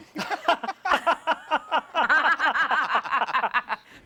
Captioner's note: laughter